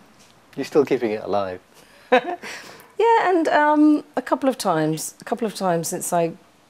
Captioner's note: laughs